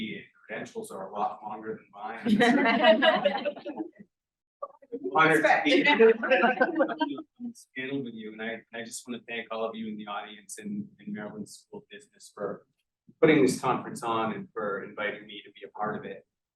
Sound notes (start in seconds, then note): 2.1 all laughing; 4.7 sound distorted